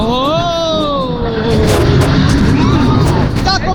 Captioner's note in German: gelächter